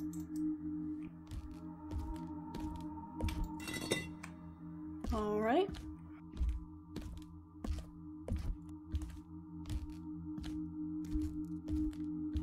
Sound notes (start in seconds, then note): 3.5 stone Scraping